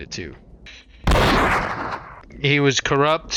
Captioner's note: blam